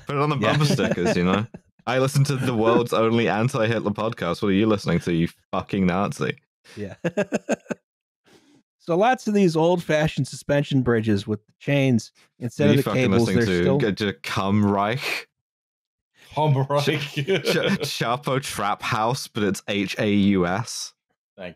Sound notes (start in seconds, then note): 0.3 laughs; 6.8 laughs; 16.7 laughing